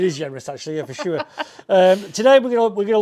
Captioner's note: laughs